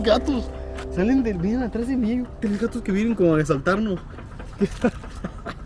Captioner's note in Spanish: risas